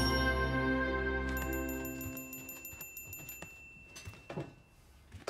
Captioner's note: text chiming